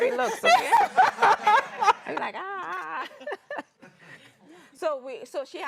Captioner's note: laughter